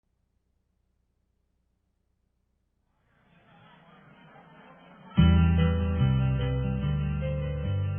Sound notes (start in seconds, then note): 3.1 people chattering; 5.2 upbeat music